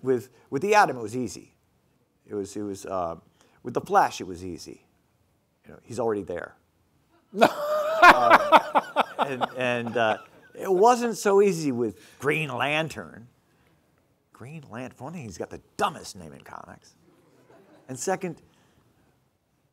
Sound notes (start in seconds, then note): 7.3 laughing